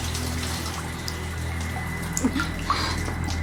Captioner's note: water shuts off